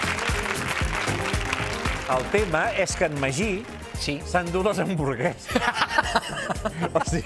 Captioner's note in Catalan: aplaudiments